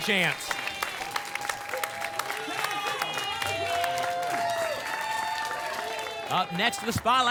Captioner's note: applause and cheering